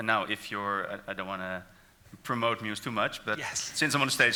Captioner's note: laughs